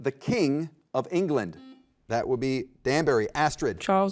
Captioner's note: button beeping